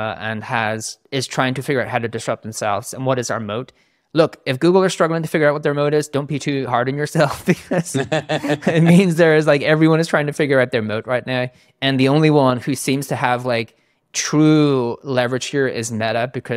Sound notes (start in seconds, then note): 7.6 laughing